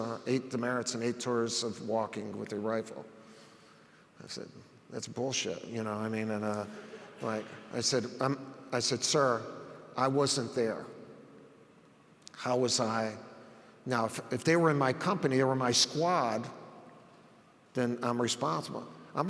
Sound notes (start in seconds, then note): 6.7 audience laughs